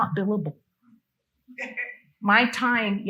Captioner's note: attendee laughing